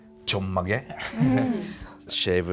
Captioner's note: chuckling